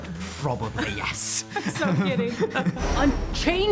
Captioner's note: both laughing